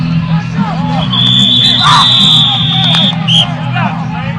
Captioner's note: whistles blowing